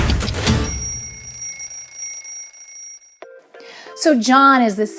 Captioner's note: alarm bell rings